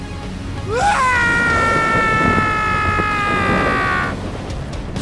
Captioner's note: screams